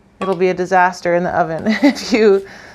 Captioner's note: laughs